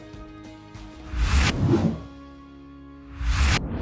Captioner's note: bright music; electronic wooshing